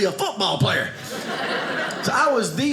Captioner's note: audience laughing